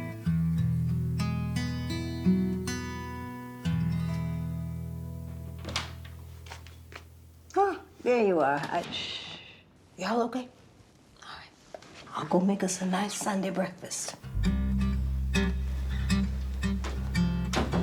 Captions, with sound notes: - Oh, there you are. (Tracy shushes) Y'all okay? All right. I'll go make us a nice Sunday breakfast. (bright plucking music)